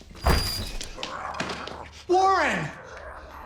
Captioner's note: zombie growling